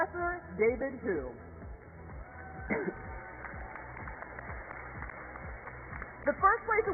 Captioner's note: applause